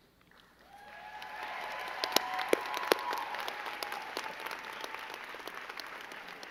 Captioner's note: crowd cheering and clapping